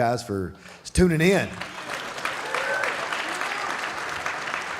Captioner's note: audience applauding